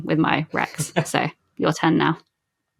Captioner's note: laughs